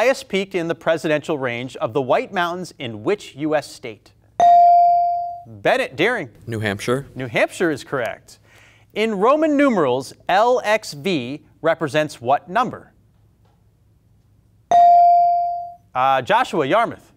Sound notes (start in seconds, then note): 4.4 buzzer pings; 14.7 buzzer pings